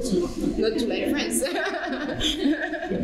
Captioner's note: laughter